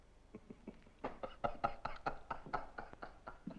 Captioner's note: laughing